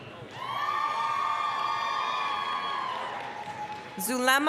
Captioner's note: applause, cheering